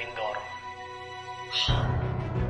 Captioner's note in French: deep breaths